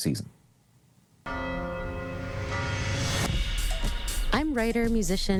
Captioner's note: bell ringing